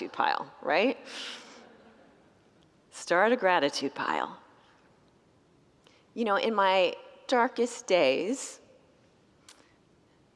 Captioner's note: congregants laugh